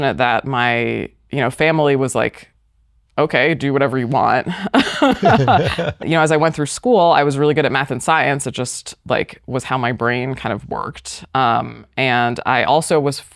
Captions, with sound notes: that my you know family was like okay do whatever "Okay do whatever you want." [ LAUGHS ] You know as I went through school I was really good at math and science it just like was how my brain kind of worked and I also was